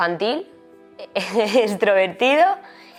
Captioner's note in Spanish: risas